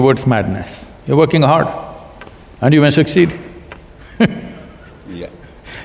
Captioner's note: laughter